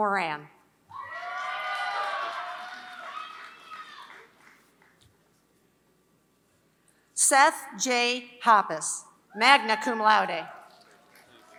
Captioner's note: applause; applause